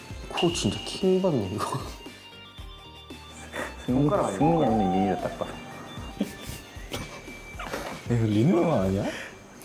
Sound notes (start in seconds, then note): 6.2 laughing